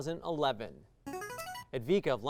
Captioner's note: signaling device tone